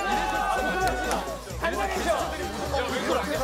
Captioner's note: cheers